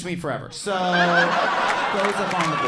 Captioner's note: audience laughing